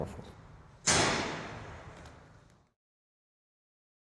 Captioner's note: gunshots